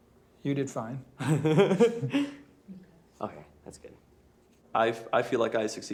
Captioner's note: laughs